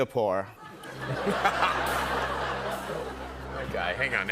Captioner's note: laughter